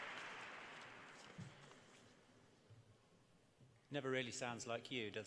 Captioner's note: applause